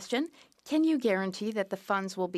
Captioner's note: speaking French